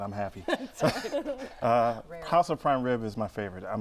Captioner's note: laughter